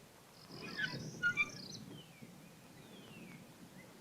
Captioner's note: door creaking